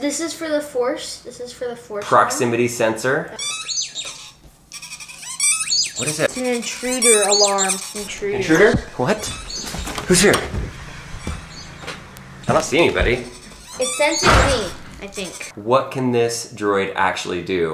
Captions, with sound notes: This is for the force. This is for the force one. - Proximity sensor. (droids chirping and beeping) - What is that? - It's an intruder alarm. - Intruder. - Intruder? What? Who's here? I don't see anybody. - It senses me, I think. - What can this droid actually do?